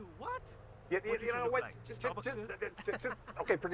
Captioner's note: employee laughing